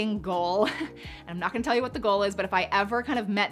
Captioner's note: chuckles